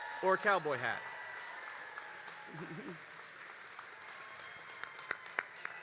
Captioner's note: all applauding and cheering